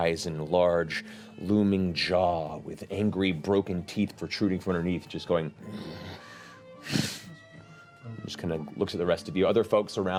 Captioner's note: snorts